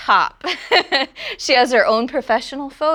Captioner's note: laughs